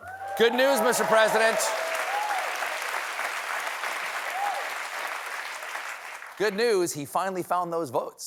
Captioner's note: applause